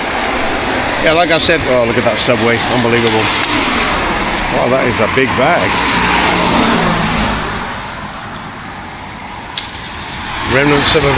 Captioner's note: road sounds